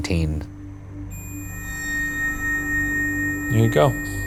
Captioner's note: REM-Pod beeping